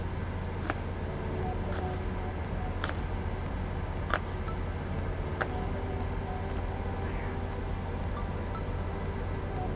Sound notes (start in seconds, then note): 0.6 soft music; 0.6 apple crunching